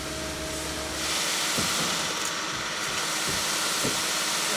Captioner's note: cement pumping